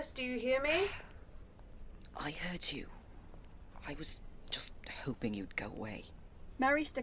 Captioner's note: Remus sighs